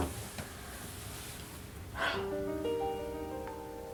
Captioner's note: shuffling in chair; big sigh